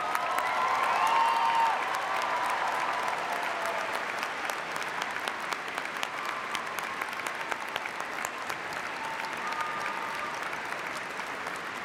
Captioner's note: cheers and applause